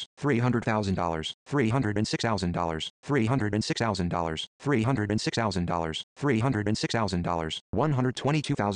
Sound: robo voice

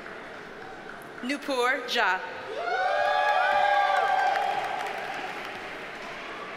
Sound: audience cheers and applauds

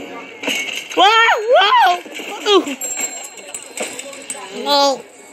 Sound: both Shouting

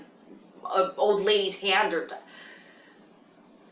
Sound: stammers

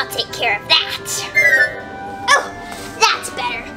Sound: magical sound

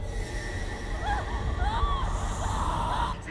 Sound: Zara screaming

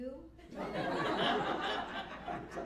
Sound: laughter

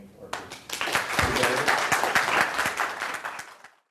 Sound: applause

